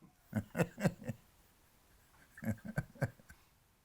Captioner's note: chuckling